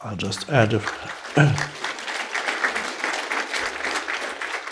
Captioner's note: audience clapping